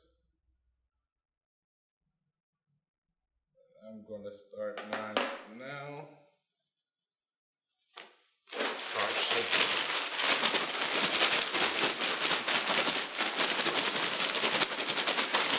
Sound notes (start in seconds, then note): 8.5 bag of ice shaking noise